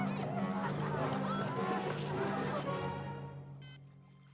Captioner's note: beeping